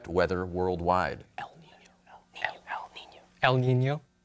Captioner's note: whispers